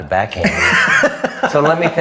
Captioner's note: laughs